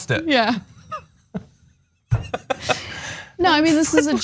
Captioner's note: laugh